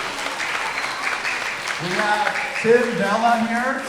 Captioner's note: everyone applauding